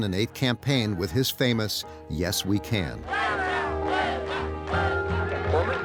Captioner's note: crowd chanting